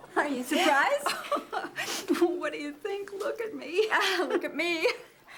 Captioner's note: laughs